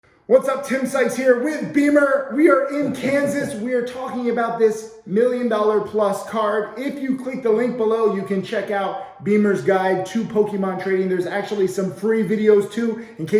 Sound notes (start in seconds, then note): 2.6 giggles